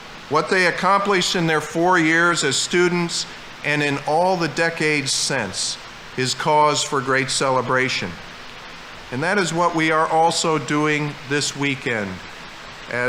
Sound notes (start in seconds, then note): none